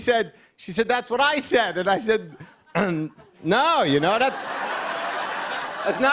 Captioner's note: clears throat